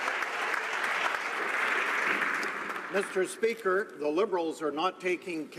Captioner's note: some Applause